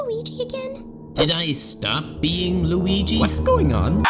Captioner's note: in italian accent